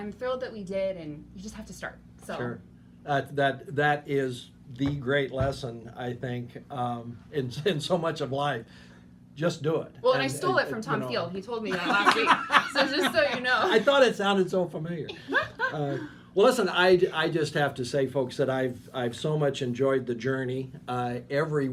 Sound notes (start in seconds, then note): 11.8 laughing; 15.2 laughing